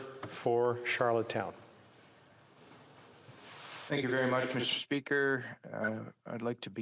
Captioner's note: speaking in french